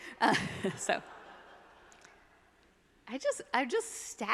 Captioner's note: everybody laughing